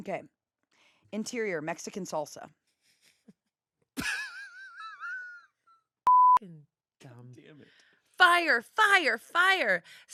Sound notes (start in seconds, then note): 3.8 laughs; 6.0 beep